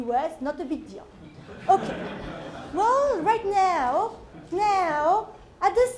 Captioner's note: laugh